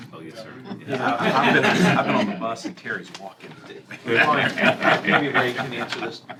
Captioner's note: laughter